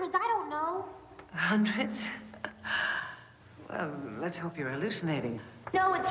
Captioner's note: scoffs